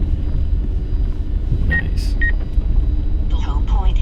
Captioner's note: drone